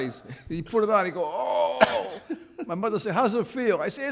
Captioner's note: grunts